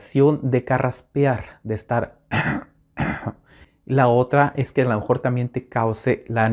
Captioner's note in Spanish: carraspea